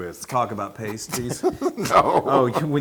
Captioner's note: laugh